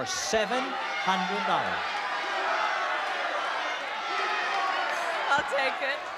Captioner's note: crowd shouting